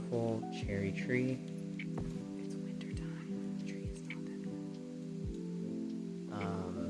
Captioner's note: whispers stressedly